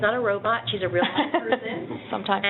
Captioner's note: laughing